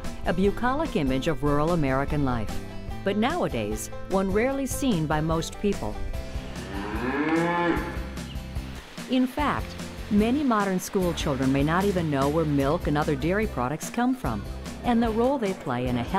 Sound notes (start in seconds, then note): 6.4 moo